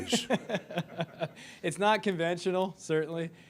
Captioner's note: crowd laughing